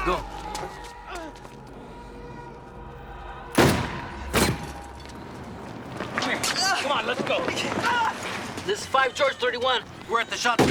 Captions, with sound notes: Go. (firing) Come here. Come on, let's go. (groaning) This is Five George 31.